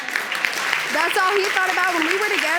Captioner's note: audience agreeing and applauding